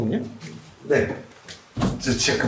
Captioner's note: confident